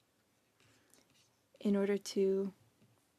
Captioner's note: speaking in French